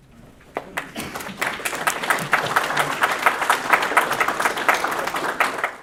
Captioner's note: audience applause